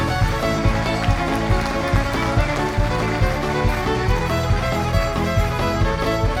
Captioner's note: applause